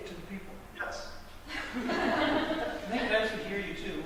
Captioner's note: audience Laughter